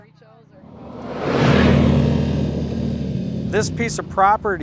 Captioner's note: engine rumbling